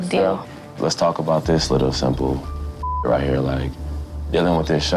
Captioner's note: beep